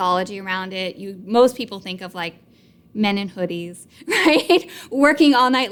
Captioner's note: laughs